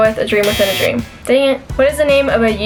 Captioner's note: buzzer